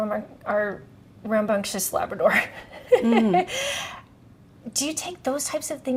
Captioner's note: chuckles